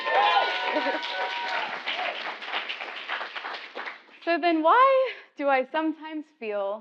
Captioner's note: applause